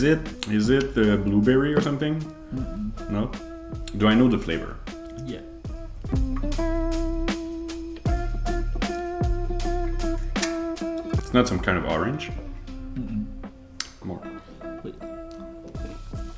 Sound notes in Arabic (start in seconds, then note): 6.3 ترانيم عيد الميلاد; 9.6 أصوات التقبيل; 16.1 ترانيم عيد الميلاد